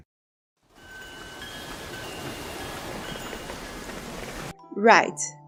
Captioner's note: wind chimes